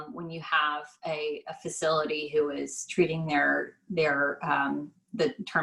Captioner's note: none